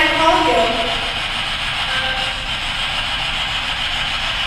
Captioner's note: static buzzing